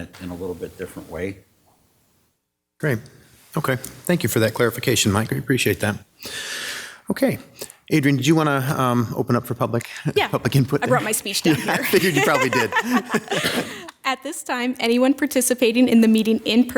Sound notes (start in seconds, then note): 13.0 laughter